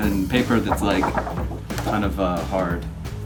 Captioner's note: paper rustling